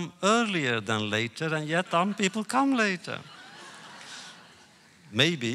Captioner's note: laughter